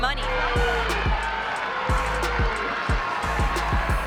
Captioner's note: crowd cheering